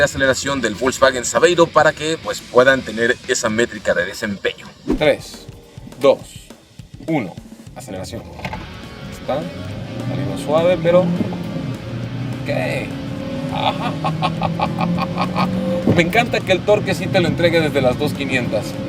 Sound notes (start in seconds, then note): 8.4 engine revving; 13.5 laughing